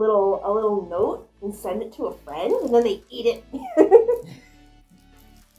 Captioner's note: laughs